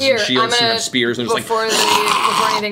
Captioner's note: snarling